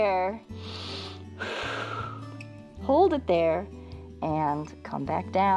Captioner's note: inhales and exhales